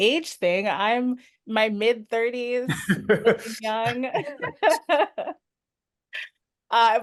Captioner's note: laughs